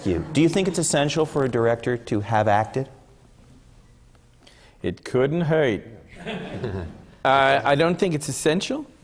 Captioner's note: laughs